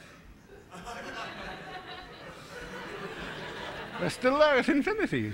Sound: laughter

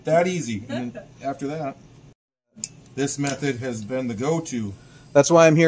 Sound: laughs

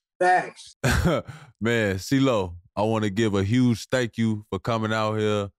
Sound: chuckles

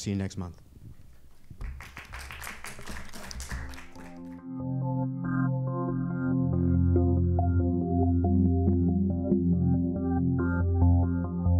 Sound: applause

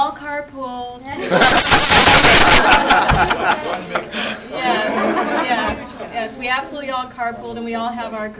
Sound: laughter

